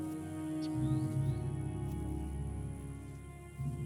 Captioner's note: birds trilling